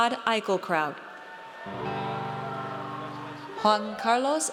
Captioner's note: audience cheers